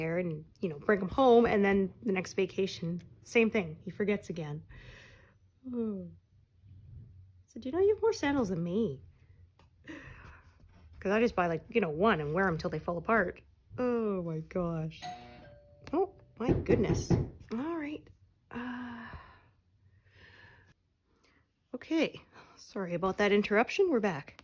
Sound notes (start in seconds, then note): 15.0 doorbell